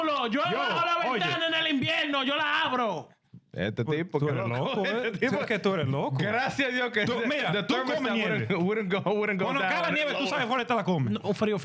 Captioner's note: laughing; speaking In Foreign Language